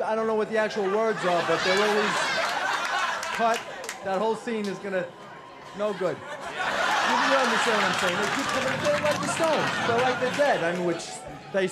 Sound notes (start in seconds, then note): 0.3 crowd laughs